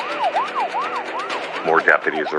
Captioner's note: siren wailing